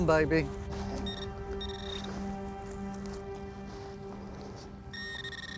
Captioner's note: equipment rings